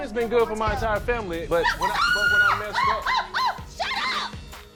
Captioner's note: screaming